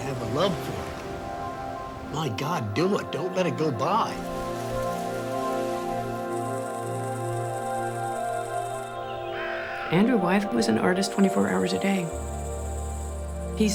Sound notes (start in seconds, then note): 4.9 gentle music; 6.7 wheel whirring